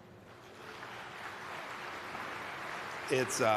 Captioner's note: applause